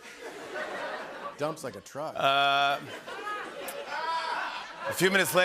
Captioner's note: laughter; laughter